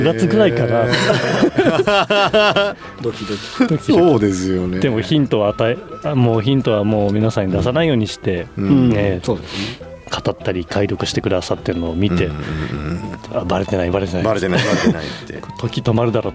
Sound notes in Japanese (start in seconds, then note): 0.0 笑い; 12.1 鼻息